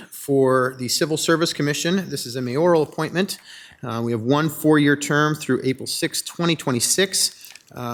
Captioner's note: none